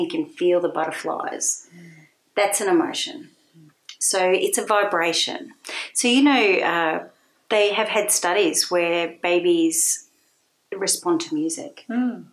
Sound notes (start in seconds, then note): none